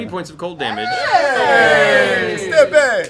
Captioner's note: cheers